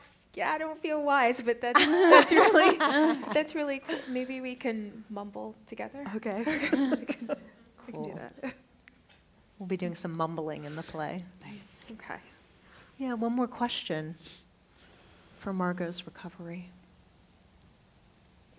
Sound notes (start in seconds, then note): 6.4 laughter